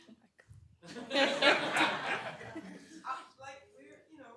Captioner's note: laughter